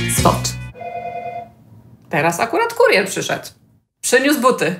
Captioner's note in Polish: dźwięk domofonu